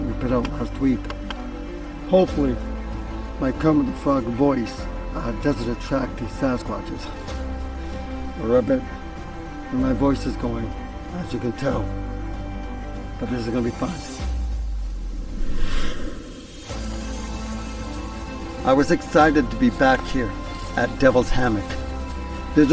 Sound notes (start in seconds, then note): 14.2 scene swooshing; 16.5 intense music